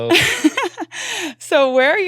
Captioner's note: laughing